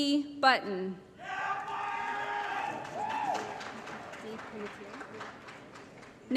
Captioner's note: applause & Cheering